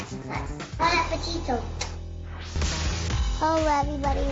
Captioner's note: kisses